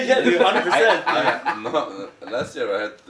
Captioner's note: laughing